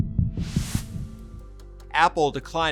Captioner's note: graphic whooshing